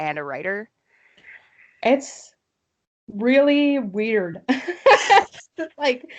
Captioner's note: laughter